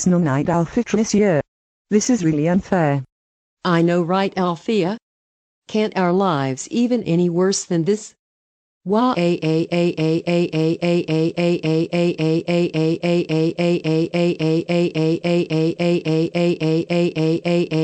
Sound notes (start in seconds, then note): 11.2 crying